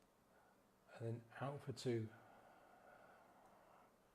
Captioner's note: gently inhales; gently exhales